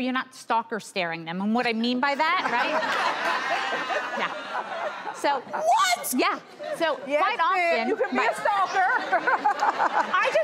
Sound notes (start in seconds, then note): 2.5 laughs